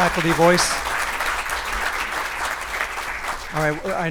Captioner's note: audience applauding